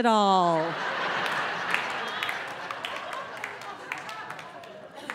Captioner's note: audience laughing